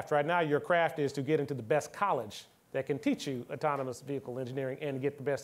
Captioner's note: none